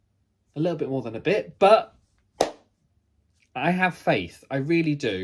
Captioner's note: claps